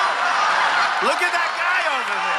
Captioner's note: audience laughing